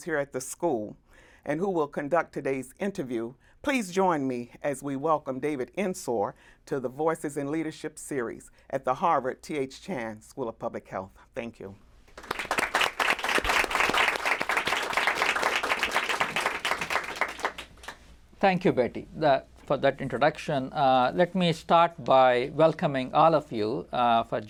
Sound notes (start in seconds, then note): 12.1 applause